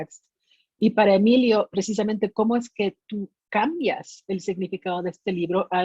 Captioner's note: speaking in Spanish